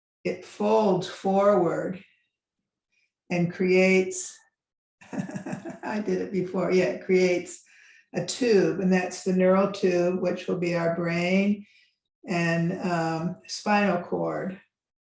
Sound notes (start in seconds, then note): 5.1 laughs